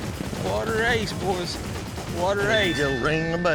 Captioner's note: hoofbeats; rings bell